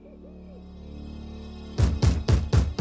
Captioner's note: knocking